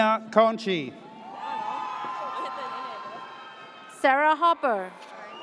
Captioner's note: audience cheers